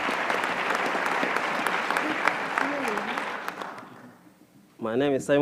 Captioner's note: applause